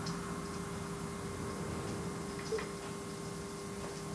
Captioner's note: whirring